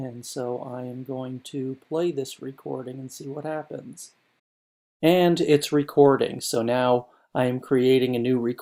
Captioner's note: recording Playing